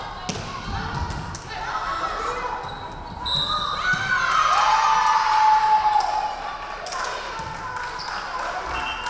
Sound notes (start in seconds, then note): 3.2 referee whistling; 3.7 crowd cheering